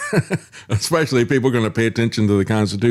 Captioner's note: laughs